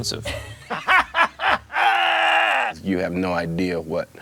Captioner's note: laughing